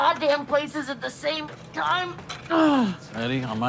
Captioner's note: groans